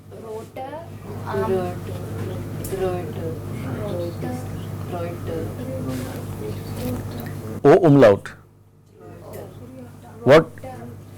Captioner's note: student repeats, general murmuring